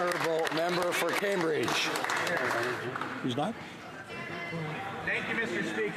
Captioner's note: applause